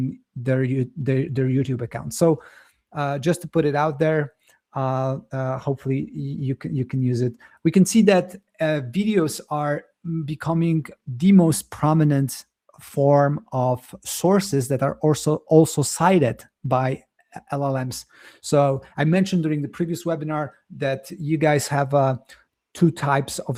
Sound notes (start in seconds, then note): none